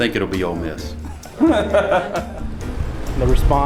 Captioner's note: laughs